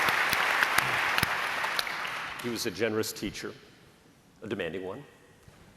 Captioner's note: applause